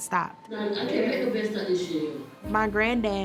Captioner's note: indistinct chatter